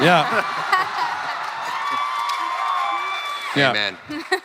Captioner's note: crowd cheering